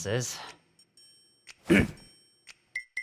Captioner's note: Battat Clears throat